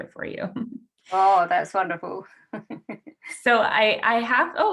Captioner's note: laughs